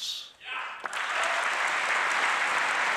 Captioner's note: cheering and applause